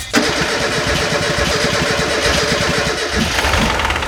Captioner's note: car engine stuttering